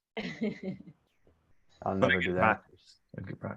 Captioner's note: participant laughing